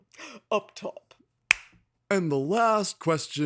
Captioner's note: slapping sound